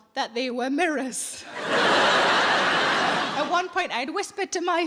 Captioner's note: audience laughing